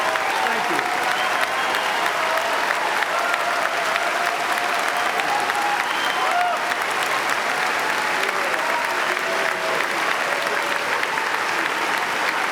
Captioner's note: applause